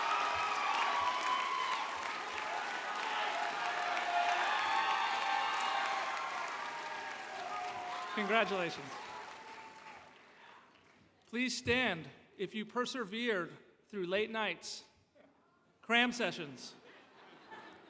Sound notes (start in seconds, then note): 1.7 applause